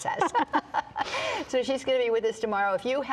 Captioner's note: both laugh